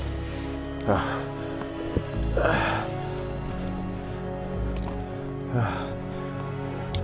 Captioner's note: breathing heavily